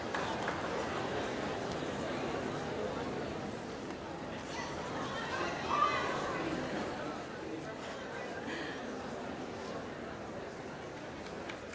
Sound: applause

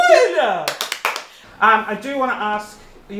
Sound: clapping

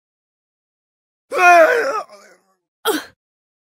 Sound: cries

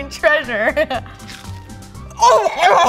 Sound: onion ring crunching

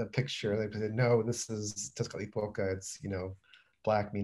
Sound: non-english

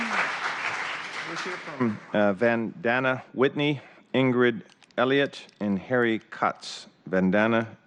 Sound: applause

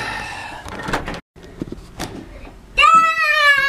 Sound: door creaks

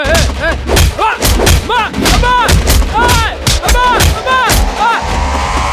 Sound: groans

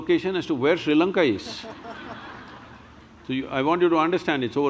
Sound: laughter

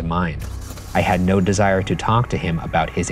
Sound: car engine starting

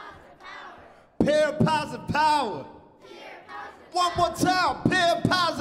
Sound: crowd chants back

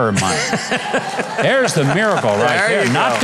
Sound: audience laughing

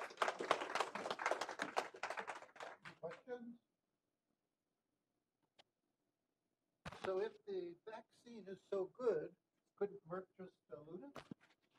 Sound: applause

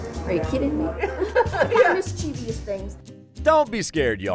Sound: laughing

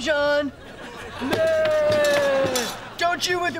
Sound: groaning

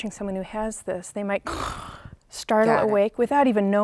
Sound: gasps

